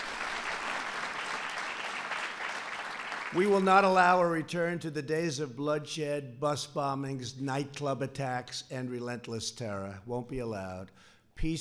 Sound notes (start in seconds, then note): 0.0 applause